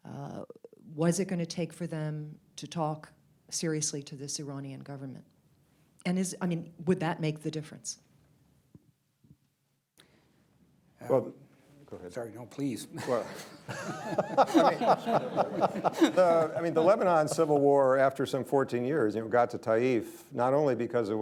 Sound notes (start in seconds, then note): 12.9 laughter